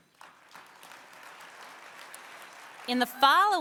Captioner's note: applause